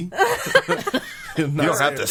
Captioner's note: laughing